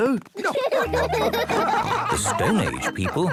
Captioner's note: laughing